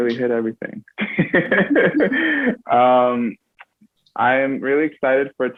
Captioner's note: both laugh